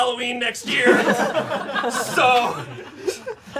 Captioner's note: audience laughing